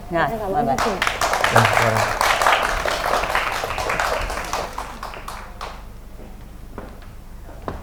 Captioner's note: applause